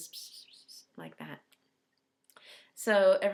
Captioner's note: whispering